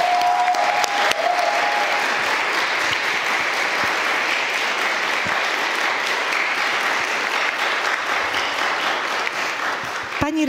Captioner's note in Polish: oklaski